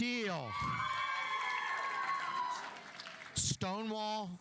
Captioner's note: audience cheering; audience applauding